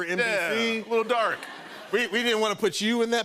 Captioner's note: laughter